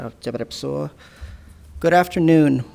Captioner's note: speaking in a foreign language